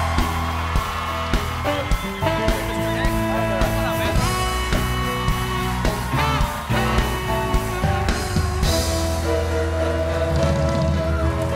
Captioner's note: applause